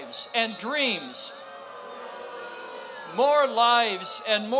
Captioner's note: crowd boos